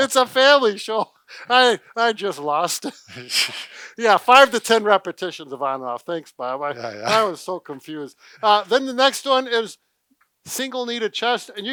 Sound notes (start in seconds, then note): 3.3 both giggles